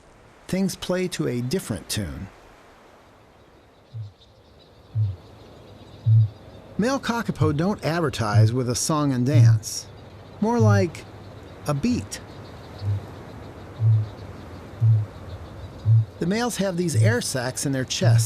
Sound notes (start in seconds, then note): 6.0 low pulsing sound; 13.8 pulsing continues